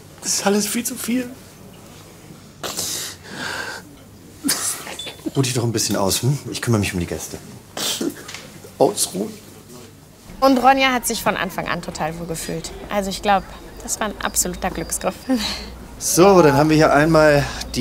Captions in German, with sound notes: Das ist alles viel zu viel. (Schluchzen) Ruh dich doch ein bisschen aus, hm? Ich kümmer mich um die Gäste. Ausruhen ... Ronja hat sich von Anfang an total wohlgefühlt. Also, ich glaub, das war ein absoluter Glücksgriff. So, dann haben wir hier einmal